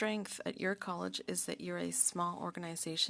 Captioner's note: speaking French